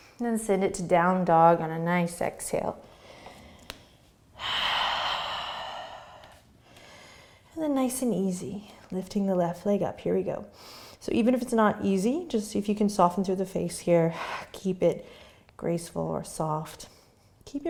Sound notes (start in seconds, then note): 4.3 deep breathing